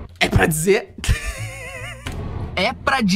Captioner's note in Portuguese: risadas